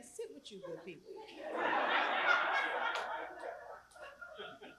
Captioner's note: laugh